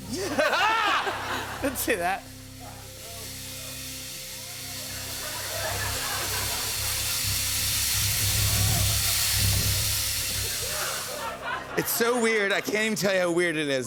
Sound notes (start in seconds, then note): 0.1 laughter; 4.7 laughter